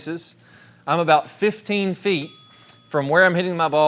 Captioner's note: bell dings